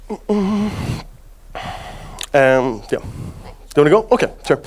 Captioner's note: narrator stutters